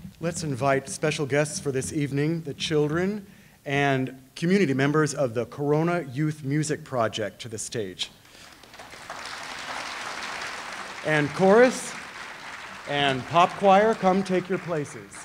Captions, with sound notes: - Let's invite special guests for this evening, the children and community members of the Corona Youth Music Project to the stage. (audience applauding) And chorus and pop choir, come take your places.